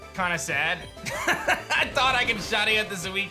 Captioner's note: laughs